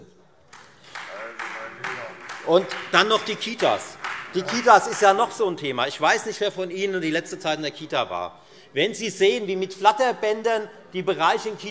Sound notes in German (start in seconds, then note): 0.5 Beifall Freie Demokraten